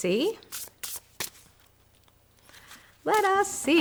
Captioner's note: cards rustle